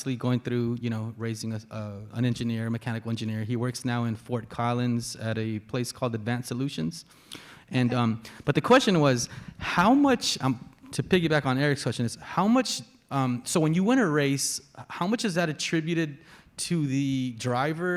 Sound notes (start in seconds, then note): none